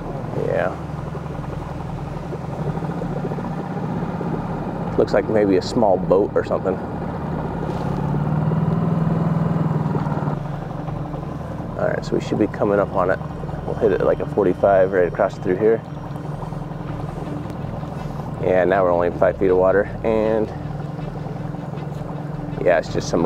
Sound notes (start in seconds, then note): 7.5 boat spluttering; 7.5 dramatic music